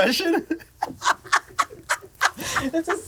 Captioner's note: all laugh